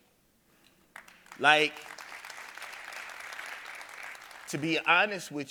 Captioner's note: audience applauding